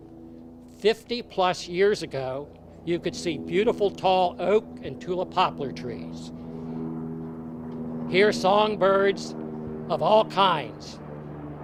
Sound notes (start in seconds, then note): none